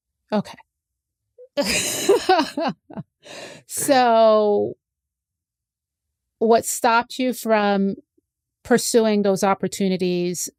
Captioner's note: laughs